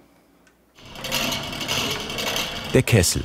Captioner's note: rattling sound